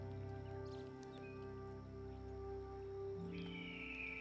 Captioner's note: bird screeching